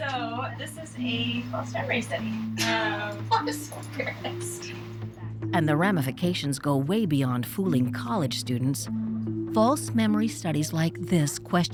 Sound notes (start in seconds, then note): 2.6 laughing